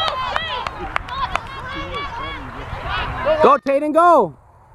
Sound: clapping

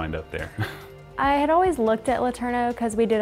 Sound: chuckles

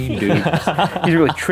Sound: laughing

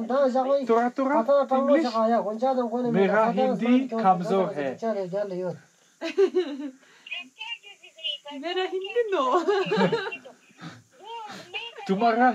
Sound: speaking in foreign language

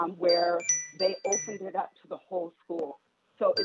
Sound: chime

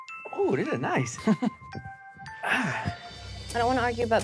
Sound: laughs

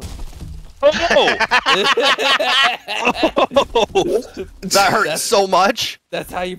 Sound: group laughter

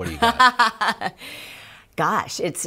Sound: laughter

